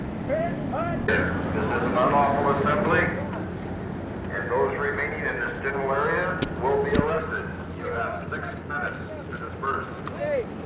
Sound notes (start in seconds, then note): 1.2 Police, over bullhorn